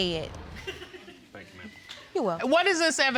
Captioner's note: audience chuckling